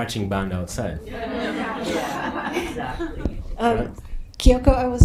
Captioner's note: audience laughing